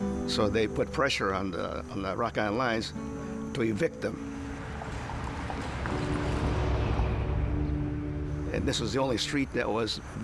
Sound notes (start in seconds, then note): 8.0 vehicle passing sound